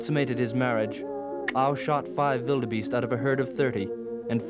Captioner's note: non-english speech